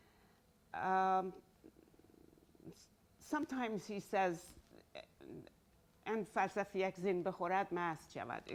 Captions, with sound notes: Sometimes he says, (speaking in Farsi)